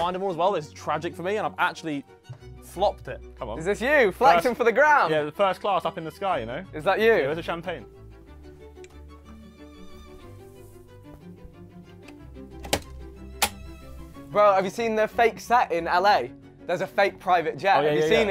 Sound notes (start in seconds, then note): 10.5 upbeat mischievous music; 12.5 door clicking